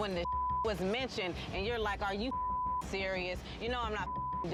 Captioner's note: beep; beep